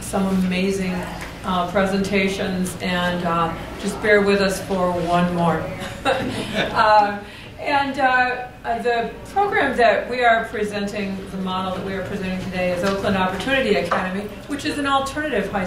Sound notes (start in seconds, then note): 5.8 laughter